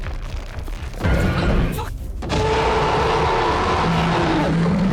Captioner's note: ground rumbling; shark roaring